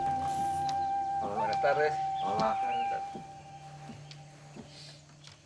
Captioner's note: man speaks a foreign language